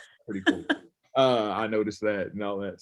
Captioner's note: laughs